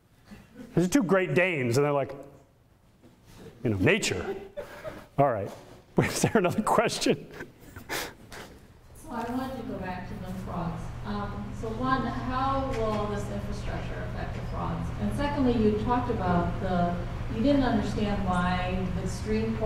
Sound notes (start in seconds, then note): 4.5 audience laughter; 7.8 chuckles